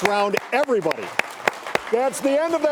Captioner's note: audience clapping